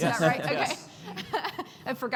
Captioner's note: chuckles